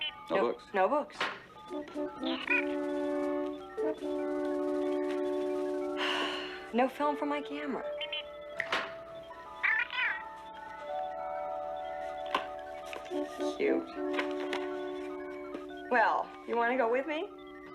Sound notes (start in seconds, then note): 6.0 sighs; 8.5 Steve Trevor snaps his Fingers